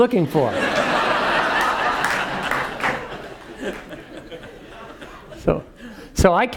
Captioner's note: laugh; applause